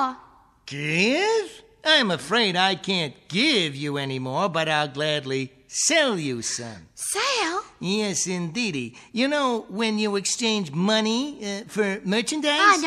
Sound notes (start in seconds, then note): none